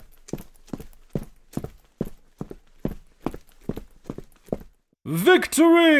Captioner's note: footsteps